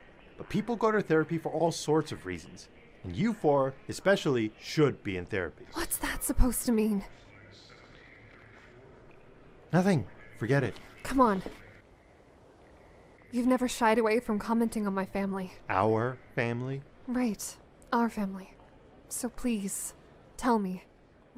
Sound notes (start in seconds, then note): none